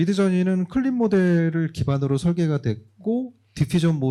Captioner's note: speaking korean